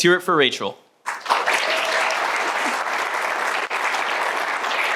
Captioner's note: applause